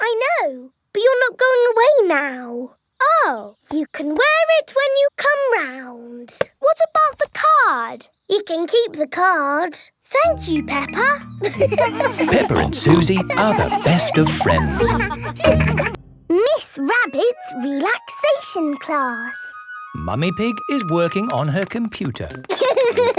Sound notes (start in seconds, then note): 11.4 all laughing; 22.4 laughter